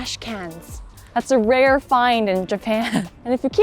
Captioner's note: chuckles